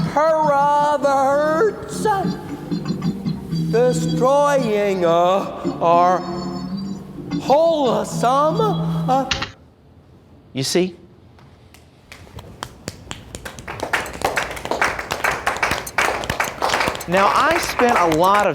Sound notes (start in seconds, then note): 7.9 click of the keyboard. TV off; 12.1 meager applause